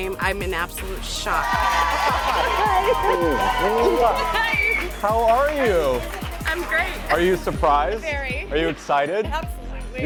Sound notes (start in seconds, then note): 1.3 audience cheers; 1.5 laughs